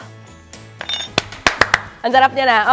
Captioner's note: claps